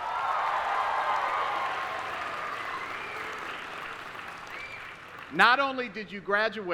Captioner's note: applause